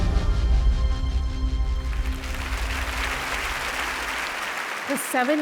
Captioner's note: audience applauding